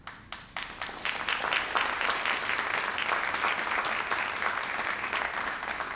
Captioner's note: all applauding